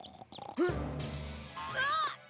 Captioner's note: birds chirping; gasps